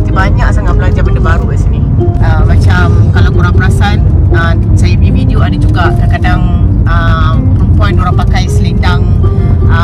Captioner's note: none